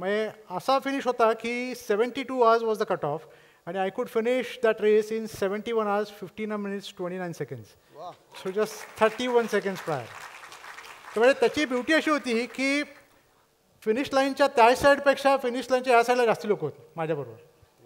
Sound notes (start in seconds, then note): 8.3 appluase